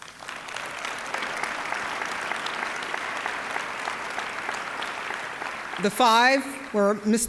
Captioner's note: applause